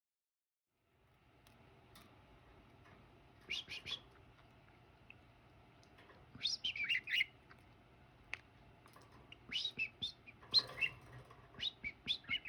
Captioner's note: whistling